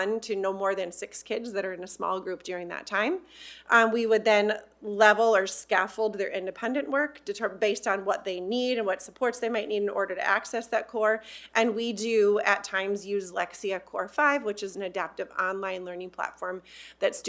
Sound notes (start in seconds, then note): none